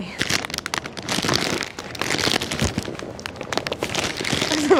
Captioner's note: bag crackling